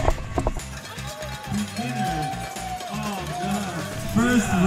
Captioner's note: cow bell ringing